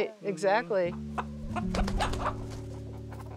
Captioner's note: clucking